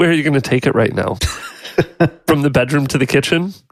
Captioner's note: laughs